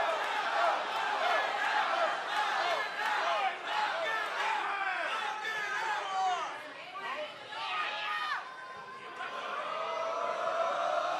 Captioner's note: cheers and applause